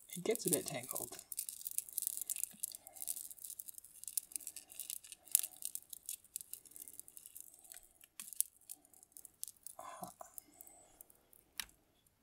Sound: beads clicking

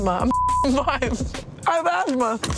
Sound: beeps

